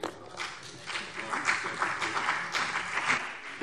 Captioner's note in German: Beifall BÜNDNIS 90/DIE GRÜNEN und CDU